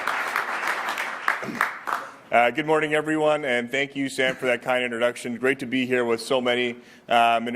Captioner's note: applause